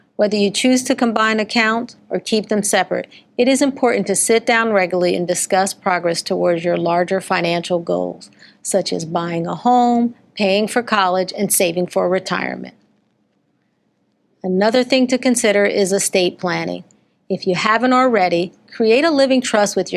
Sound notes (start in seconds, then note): none